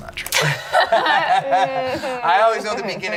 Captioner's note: laughing